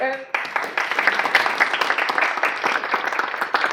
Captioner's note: applause